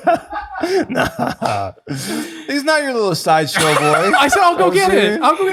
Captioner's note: laughs